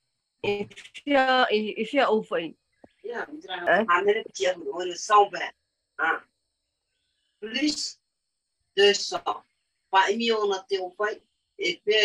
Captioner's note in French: et sa mère parlent paumotu